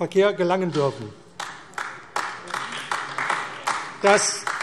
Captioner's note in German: Beifall AfD